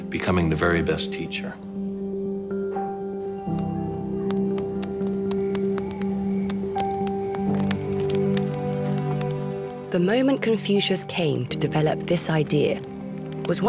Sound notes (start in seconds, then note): 1.9 fire crackling; 1.9 gentle music